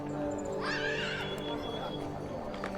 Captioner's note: child screams; gentle music